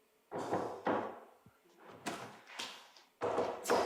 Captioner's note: knocking